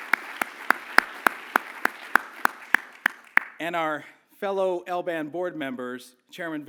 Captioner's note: applause